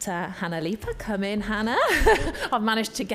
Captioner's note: chuckles